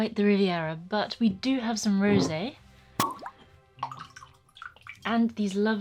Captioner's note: sound of cork popping and wine being poured